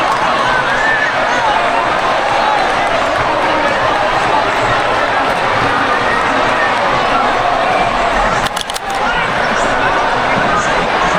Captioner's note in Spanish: ovación